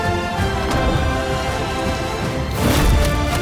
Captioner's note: light zapping; door thudding; club whooshing